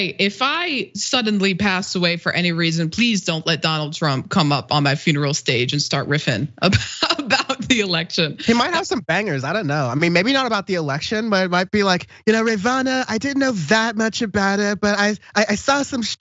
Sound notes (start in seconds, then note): 8.4 laugh